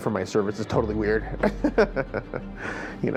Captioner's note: chuckles